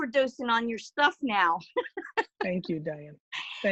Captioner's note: laughing